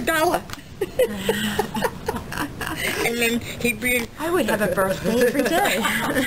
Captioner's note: both laugh